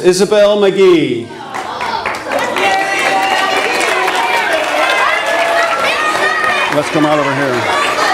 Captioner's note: audience applause